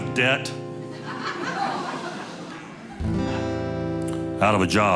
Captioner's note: audience laughing